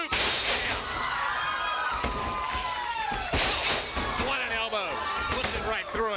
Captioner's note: crowd cheering